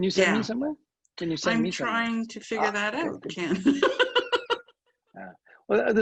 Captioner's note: laughs